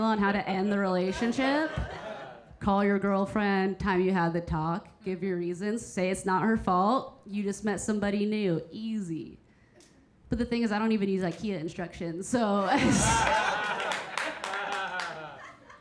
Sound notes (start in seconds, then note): 12.6 Keira chuckling; 12.6 audience laughing; 12.7 audience member applauding